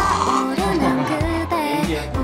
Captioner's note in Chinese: 大笑